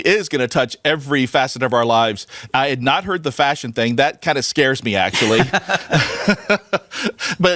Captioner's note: laughs